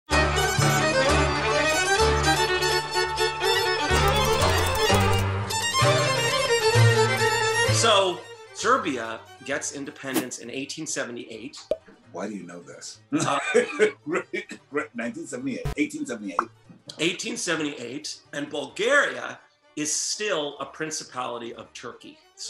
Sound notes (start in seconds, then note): 13.2 laughs